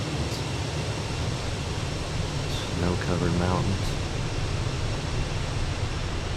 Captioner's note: radio chatter